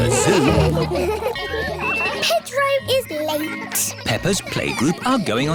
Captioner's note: kids giggling